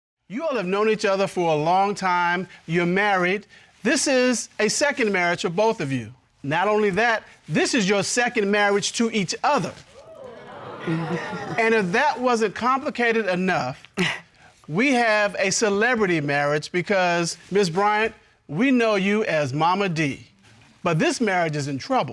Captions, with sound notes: You all have known each other for a long time. You're married. This is a second marriage for both of you? Not only that, this is your second marriage to each other. -[audience cheering] -[chuckles] And if that wasn't complicated enough, we have a celebrity marriage because, Ms. Bryant, we know you as Momma Dee. But this marriage is in trouble.